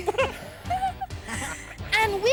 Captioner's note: all laugh; chuckles